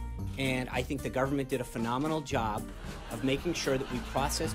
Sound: raucous laugh track

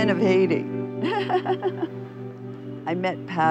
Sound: giggles

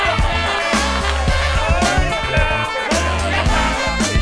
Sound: cheering

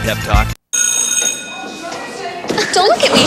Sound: school bell

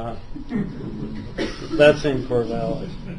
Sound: laughter

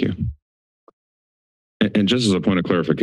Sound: silence

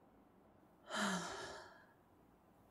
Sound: long sigh

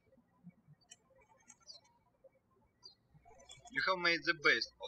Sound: birds chirping

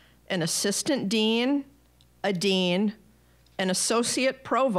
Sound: none

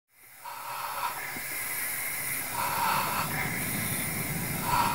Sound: suspenseful breathing

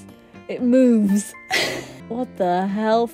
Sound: laughs

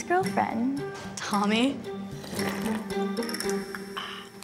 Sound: slurping drink; bright percussive music

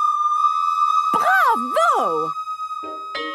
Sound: school bell ringing

